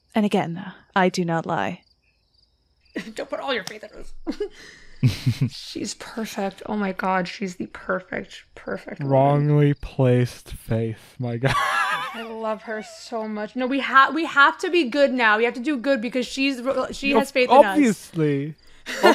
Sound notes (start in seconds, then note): 5.0 chuckles; 11.1 laughs